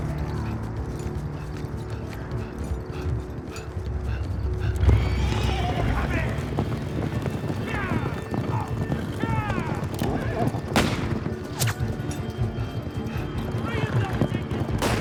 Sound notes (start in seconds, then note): 0.0 gasping; 1.6 gasping; 5.5 hooves clopping; 5.5 horses whinnying; 7.5 men shouting; 10.6 gun firing; 11.5 bullet whirring